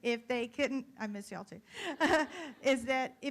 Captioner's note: laughs